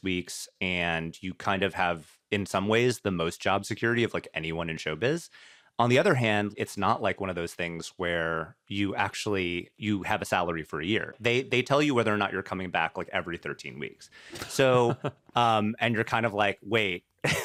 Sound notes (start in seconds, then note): 14.4 chuckles; 14.4 laughs